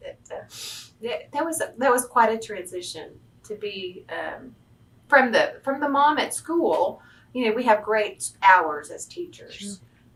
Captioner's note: laughs